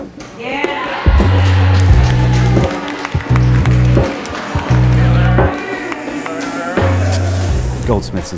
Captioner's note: claps and hisses